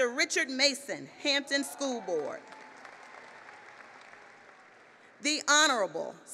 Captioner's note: applause